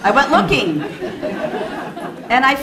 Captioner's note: laughing